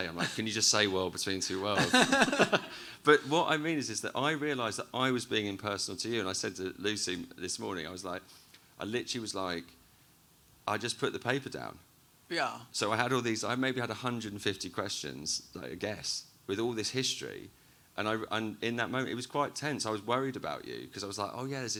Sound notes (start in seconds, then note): 1.5 both laughing